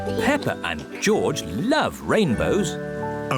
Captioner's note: none